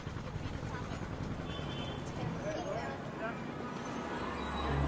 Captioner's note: people chattering